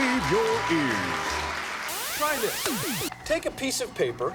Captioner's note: cheers and applause